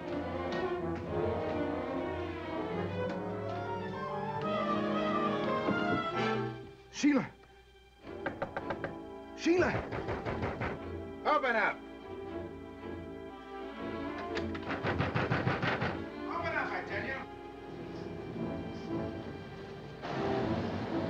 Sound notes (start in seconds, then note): 0.2 suspenseful music; 9.5 Johnson pounding; 14.4 Johnson pounding; 17.9 suspenseful music